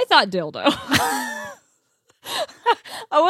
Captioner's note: laughs